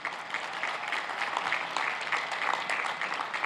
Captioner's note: cheers and applause